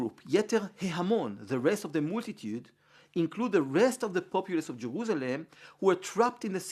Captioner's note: Hebrew